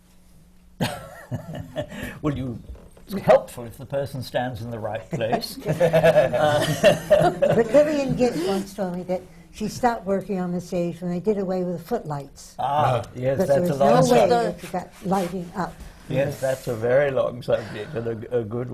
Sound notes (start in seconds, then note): 0.1 laughs; 5.1 laughter